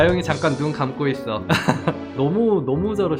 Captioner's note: laughs